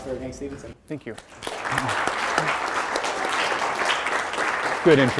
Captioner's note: applause